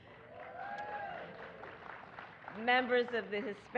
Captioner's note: applause